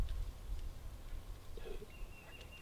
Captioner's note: turkey calls